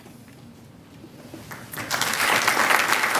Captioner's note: applause